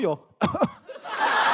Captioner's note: cough